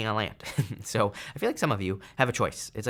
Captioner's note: chuckles